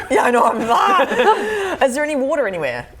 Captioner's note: panics